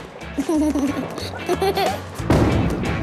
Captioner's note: giggles